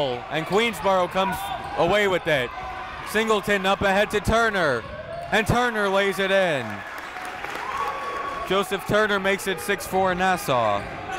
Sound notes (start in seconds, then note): 7.1 crowd cheering